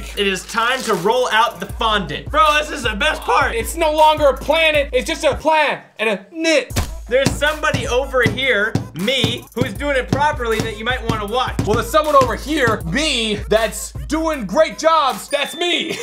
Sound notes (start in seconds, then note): 6.7 thumps